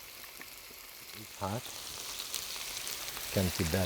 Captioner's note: pan sizzling